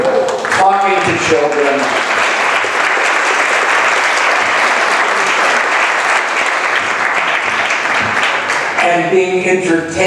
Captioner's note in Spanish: applause